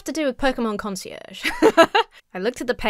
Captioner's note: laughs